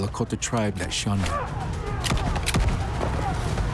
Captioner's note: gun fires